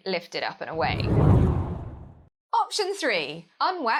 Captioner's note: hard whooshing